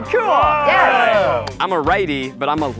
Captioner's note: cheering